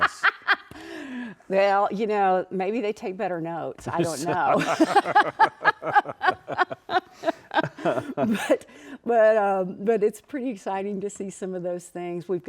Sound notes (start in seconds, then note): 0.0 laughing; 4.0 both laughing